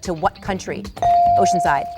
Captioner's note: bell dinging